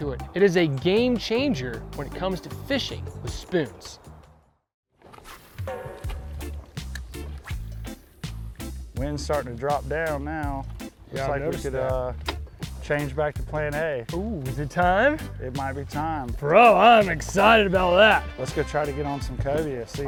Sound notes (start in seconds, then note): 5.2 cheerful music; 5.2 rod swishing